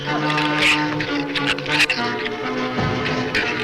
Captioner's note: shrew snarls